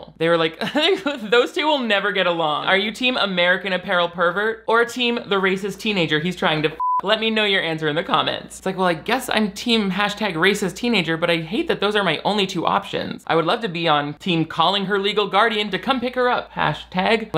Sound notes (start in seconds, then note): 6.7 beep